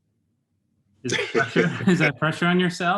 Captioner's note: laughs